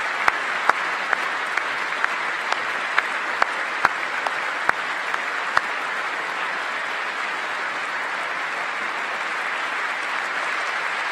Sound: applause

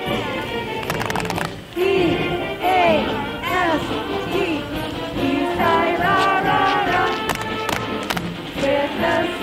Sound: chanting

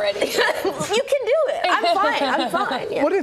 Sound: laughter

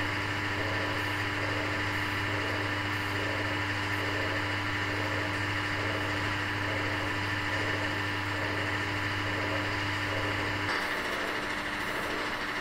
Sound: background pump noises

